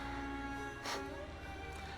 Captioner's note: laugh